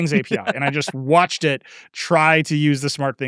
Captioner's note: laughing